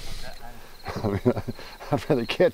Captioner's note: crickets